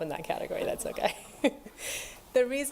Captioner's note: laughs